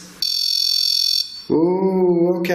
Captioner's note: REM-POD beeping